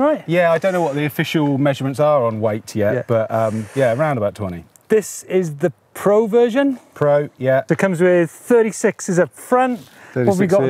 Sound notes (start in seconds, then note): none